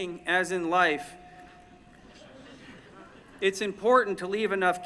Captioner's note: laughter